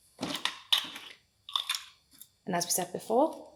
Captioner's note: plastic rattling